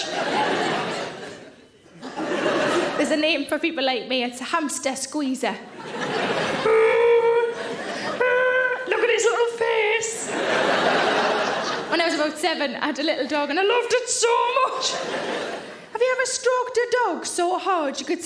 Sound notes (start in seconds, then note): 0.0 audience laughing; 5.6 audience laughing; 5.8 Sarah groaning; 10.1 audience laughing